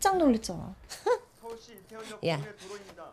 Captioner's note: giggles